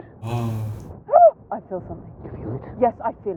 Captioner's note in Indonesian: Terkesiap